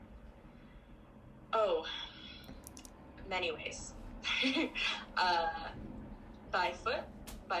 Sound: sighs thoughtfully; laughs

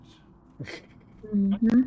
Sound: laughter

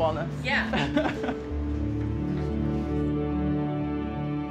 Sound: laughing

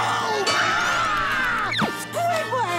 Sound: screaming

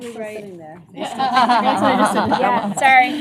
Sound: laughter

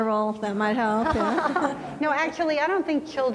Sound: laughing

